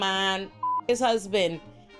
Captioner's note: beep